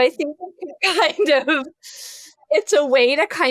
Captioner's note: laughs